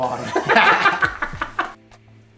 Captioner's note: both laugh